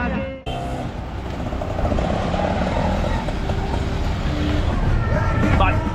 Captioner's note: auto engine; speaking Italian